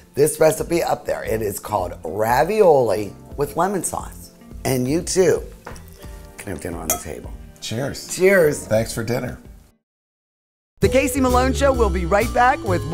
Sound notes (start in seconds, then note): 5.5 wine glasses clink